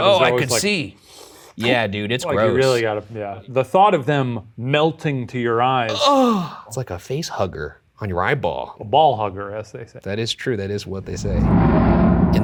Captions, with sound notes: - Oh, I can see! - You're always like. (Imitates suction cup) - Yeah, dude, it's gross. - Sometimes you really gotta, yeah. The thought of them melting to your eyes. (groans) - Almost like a face hugger on your eyeball. - A ball hugger, as they say. - That is true. That is what they say.